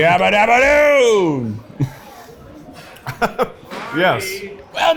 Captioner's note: laughs